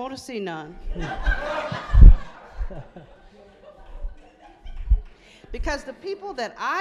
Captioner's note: audience laughing